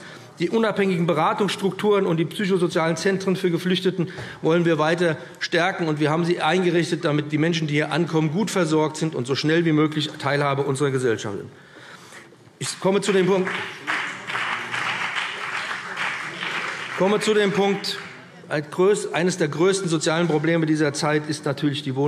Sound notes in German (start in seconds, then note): 12.9 Beifall BÜNDNIS 90/DIE GRÜNEN und CDU